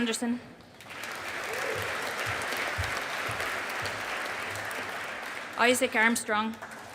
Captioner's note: audience applauding